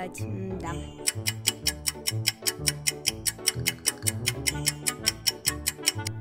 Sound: the sound of a ticking clock

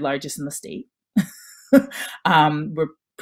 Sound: chuckles

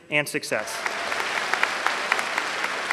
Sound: applause

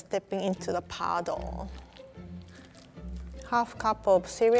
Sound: Froot Loops squelching

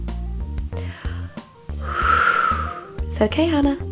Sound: exhales

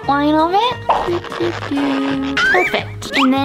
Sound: marker screeches

